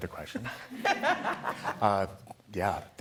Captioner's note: laughing